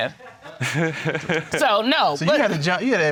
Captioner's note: chuckles